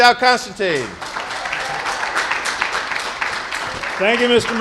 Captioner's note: applause